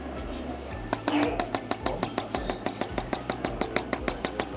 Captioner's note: tool buzzing